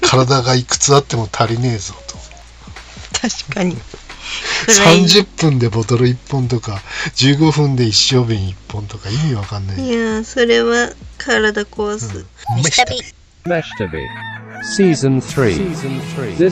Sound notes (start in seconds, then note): 12.4 laughs